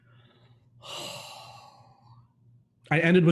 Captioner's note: sighing